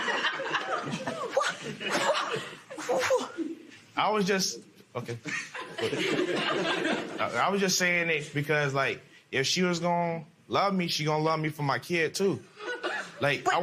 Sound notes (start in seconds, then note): 0.0 laughter; 1.8 stuttering